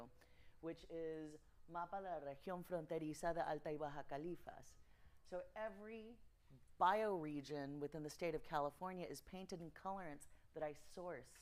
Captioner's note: speaking Spanish